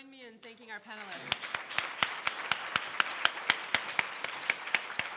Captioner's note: crowd clapping